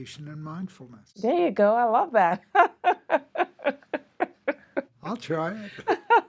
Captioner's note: laughs